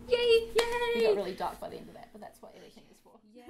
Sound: clapping

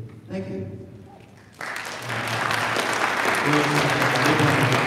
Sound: audience applauding

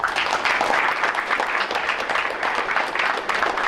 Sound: crowd applauds

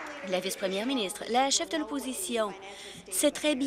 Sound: applause

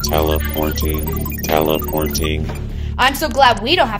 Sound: computer Voice

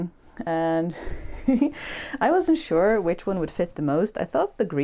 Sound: chuckles

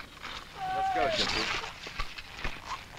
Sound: man shouting

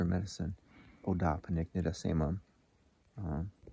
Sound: foreign language

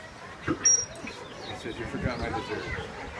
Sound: trainer blows high-pitched whistle for a fraction of a second

